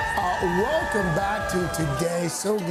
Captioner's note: cheers and applause